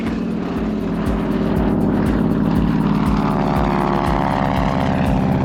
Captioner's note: airplane engine roars